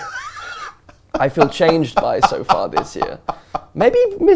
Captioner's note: laughs